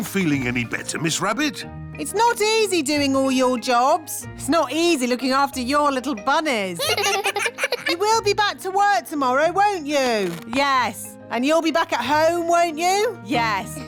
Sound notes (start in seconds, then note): 6.8 children laugh